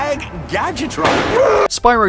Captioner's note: pop; anguished cry